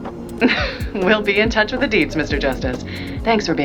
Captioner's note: laughs